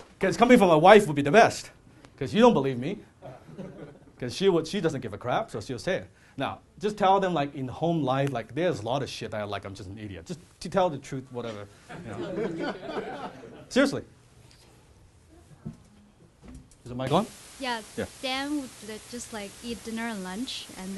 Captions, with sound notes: Guys coming from my wife would be the best cause you don't believe me, cause she doesn't give a crap so she'll say it. Now, just tell them like in home life, there's like a lot of shit that I'm just an idiot. Just tell the truth, whatever. (audience laughs) Seriously. Is the mic on? Yeah, Dan will just like eat dinner and lunch